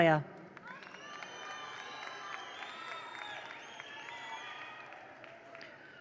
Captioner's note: attendees cheer; attendees applaud